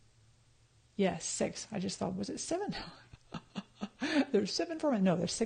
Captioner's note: laughs